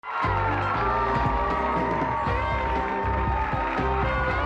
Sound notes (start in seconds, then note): 0.0 audience applauds